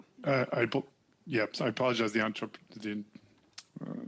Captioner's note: speaking French